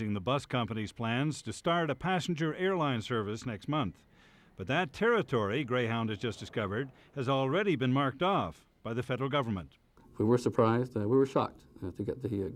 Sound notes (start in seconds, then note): none